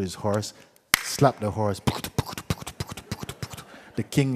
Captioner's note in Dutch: geluid van galopperen